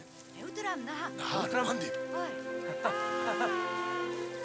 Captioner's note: foreign spoken audio